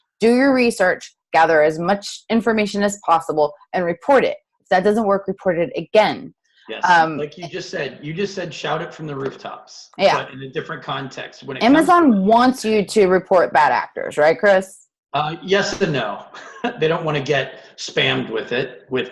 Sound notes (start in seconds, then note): 15.2 chuckles